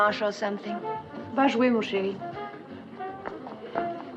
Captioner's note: speaking French